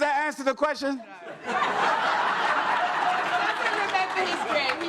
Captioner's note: audience laughs